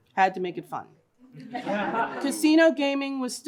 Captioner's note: laughter